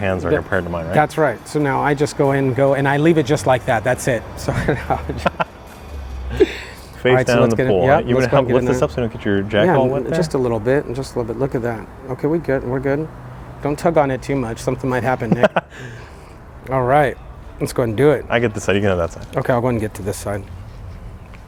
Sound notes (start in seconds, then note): 4.3 hearty laughing